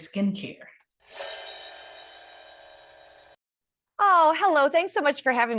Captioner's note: screen whooshing